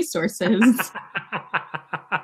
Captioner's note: laughs